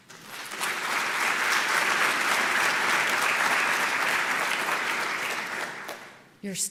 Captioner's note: applause